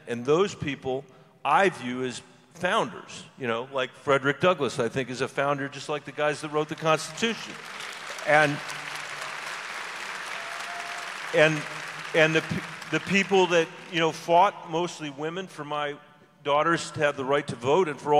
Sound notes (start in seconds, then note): 8.1 audience applause